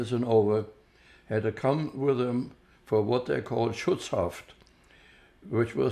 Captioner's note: german